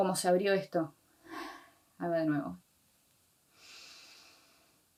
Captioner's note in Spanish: respiración